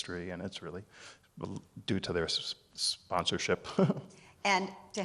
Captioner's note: chuckles